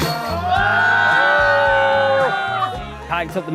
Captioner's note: everyone cheers